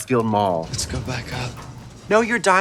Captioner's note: metal gate rattling